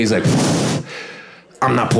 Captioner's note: blows raspberry